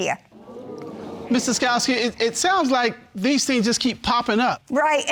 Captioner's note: audience exclaiming